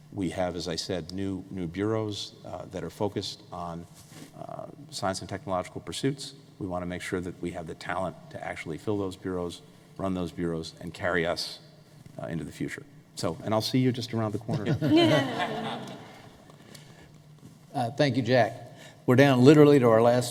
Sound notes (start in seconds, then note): 14.5 laughter